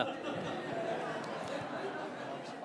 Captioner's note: laughter